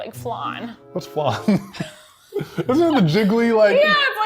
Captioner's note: laughs